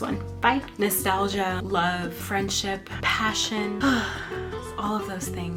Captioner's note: sighs